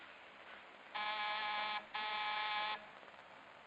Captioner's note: buzzer buzzing